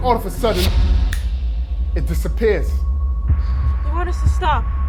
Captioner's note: fingers snapping